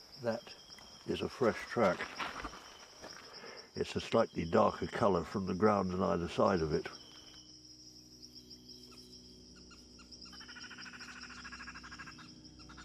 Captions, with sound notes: - That is a fresh track. It's a slightly darker color from the ground on either side of it. (animals chirping)